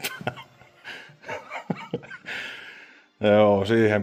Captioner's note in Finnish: naurua